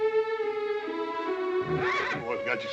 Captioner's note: neighs